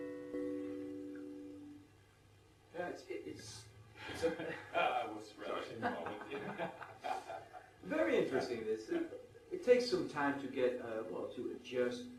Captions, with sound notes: Yeah it’s … - *sighs* Ah, I was relishing the moment. Very interesting this is, it takes some time to get, well, to adjust.